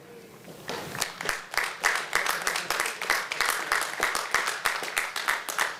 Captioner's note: applause